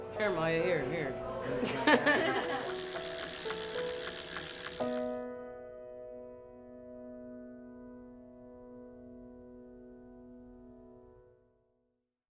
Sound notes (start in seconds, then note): 1.6 laughs; 2.3 whirring sound